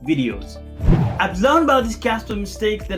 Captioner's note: air swooshing